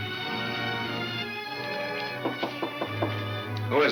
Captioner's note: knocking on door